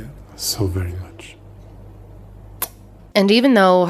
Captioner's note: smooching